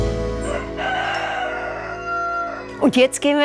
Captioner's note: rooster crows